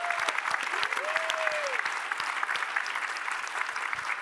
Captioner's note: applause